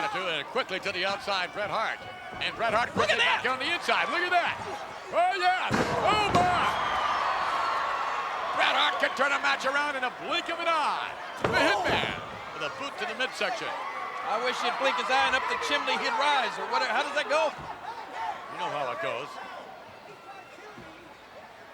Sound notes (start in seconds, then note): 6.7 crowd cheering